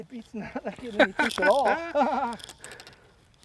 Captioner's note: laughter